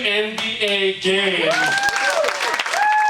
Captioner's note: audience applauding